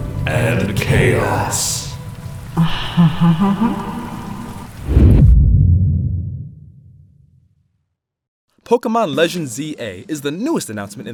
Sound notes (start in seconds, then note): 2.7 evil Laughter